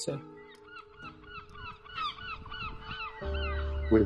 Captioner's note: birds squawking